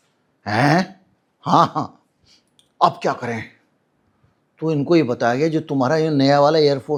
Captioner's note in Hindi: नाक से की जाने वाली आवाज़